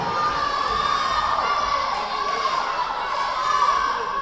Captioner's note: yelling